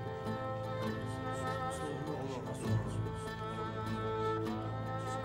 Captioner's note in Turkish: Kalabalık konuşma sesleri